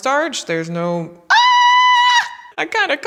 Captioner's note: screams